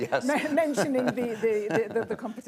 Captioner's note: laughs